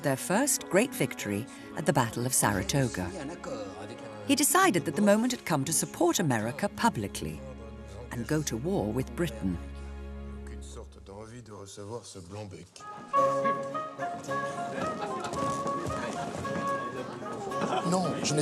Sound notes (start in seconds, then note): 10.9 men speaking in French; 12.8 bright music; 14.0 courtiers chattering